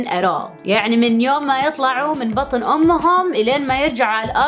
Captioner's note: speaking in Arabic